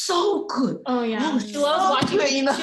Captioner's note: laughter